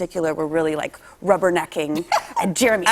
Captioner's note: laughter